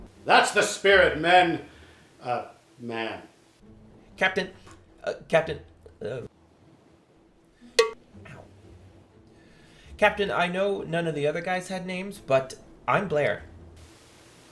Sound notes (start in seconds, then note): 7.5 clank